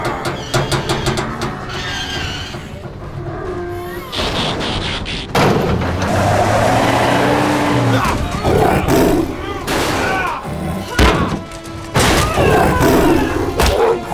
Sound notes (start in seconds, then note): 0.2 metal scraping; 2.9 rhino growls; 5.3 engine revs; 6.2 tires screech; 7.7 tiger roars; 7.9 Ironhide gasps; 9.5 Ironhide grunting; 12.0 Arcee grunts; 12.3 tiger roaring